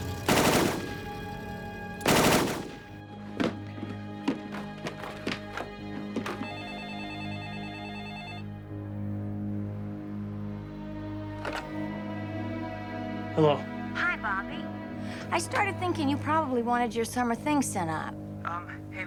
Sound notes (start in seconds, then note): 0.3 gunshots blasting; 3.4 box thudding; 6.2 phone ringing; 8.9 menacing music